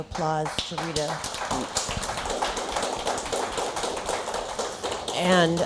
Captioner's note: applause